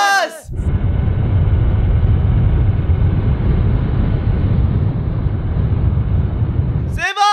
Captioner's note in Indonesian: Suara mobil